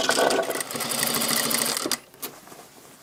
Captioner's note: quick rattling